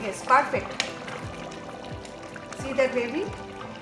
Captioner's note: bubbling